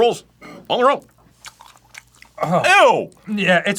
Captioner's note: unpresidential chewing